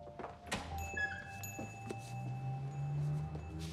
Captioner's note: bell dings